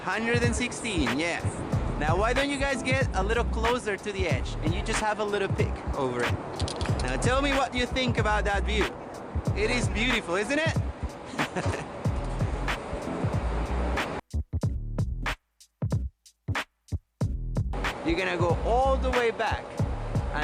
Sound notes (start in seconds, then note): 0.0 people talking; 11.3 laughs; 12.3 upbeat music